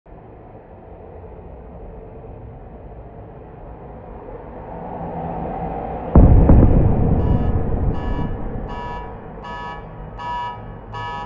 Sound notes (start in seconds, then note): 6.1 explosions